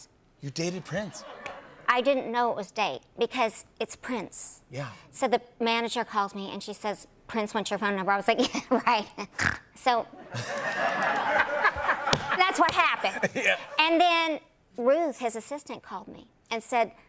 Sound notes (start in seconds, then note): 9.5 snorts; 10.2 laughter